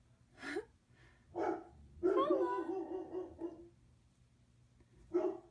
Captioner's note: laughing at dog barking